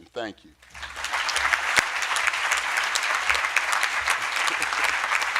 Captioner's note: audience applauding